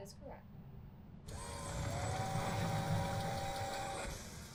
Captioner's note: door buzzes